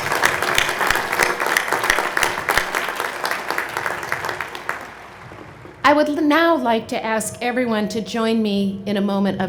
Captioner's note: applause